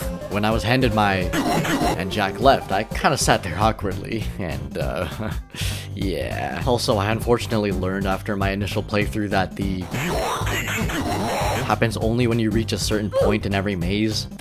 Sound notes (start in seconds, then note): 4.0 chuckles